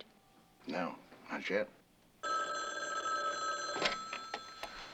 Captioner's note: phone rings